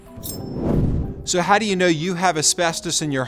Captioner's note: air whooshes